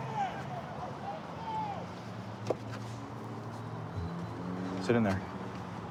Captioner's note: indistinct shouting; vehicles driving